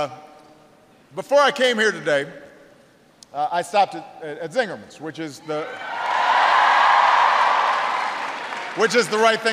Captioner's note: applause